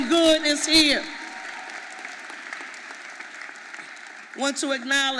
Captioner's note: audience applauding